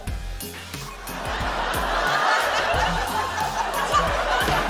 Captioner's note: laughter